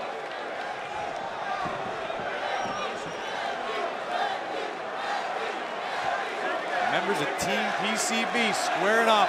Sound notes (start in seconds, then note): 4.9 fans chanting